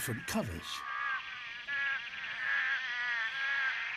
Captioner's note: groaning, croaking, chirping